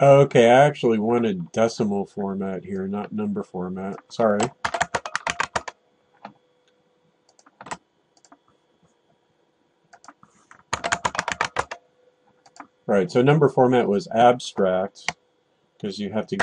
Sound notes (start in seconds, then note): 4.6 typing